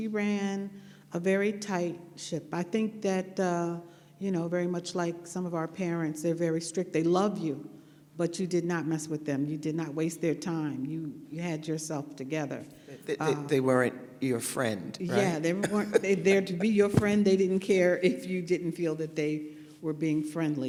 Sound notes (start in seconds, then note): 15.1 laughs